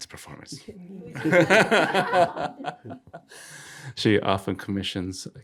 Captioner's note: all laughing